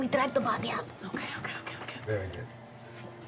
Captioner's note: whispering